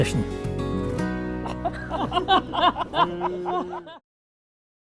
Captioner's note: laughter